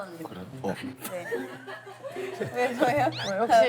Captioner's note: haha